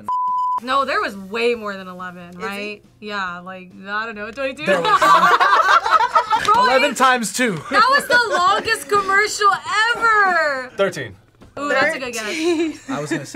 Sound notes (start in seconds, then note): 4.6 group laughs; 7.6 laughs; 12.1 laughs